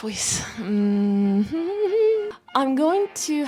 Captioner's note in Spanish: más ruidos de títeres tristes